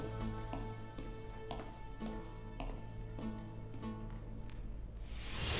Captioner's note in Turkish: Ayak sesi; Müzik - Gerilim